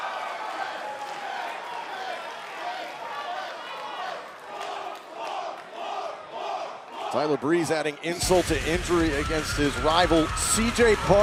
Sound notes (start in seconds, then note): 3.2 crowd cheering